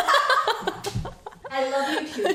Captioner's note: laughs